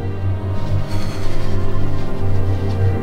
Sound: emma exhales

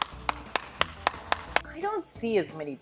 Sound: clapping

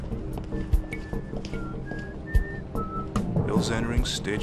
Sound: whistling

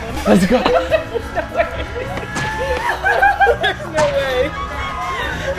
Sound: laughs in the background; continues to laugh

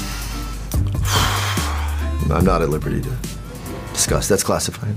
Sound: sighs

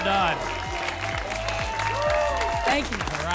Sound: applause and cheering

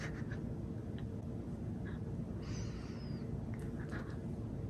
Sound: woman chuckling

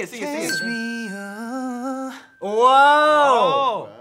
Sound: dinging

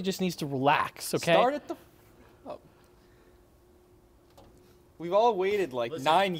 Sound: whispers

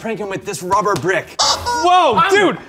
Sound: chicken clucks

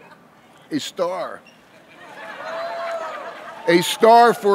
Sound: laughing

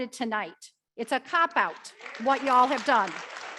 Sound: audience clapping

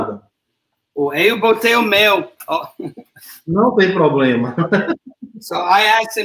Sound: speaks portuguese

